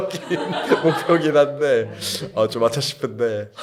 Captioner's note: ha ha